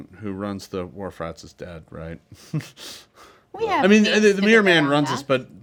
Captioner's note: laughs